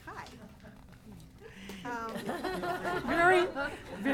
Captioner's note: laughing